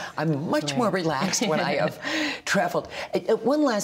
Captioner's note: laughter